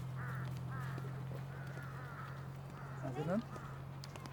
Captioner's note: engine running, crows cawing